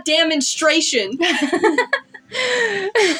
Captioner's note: laugh; chuckle